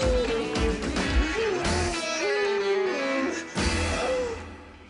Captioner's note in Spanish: Gemidos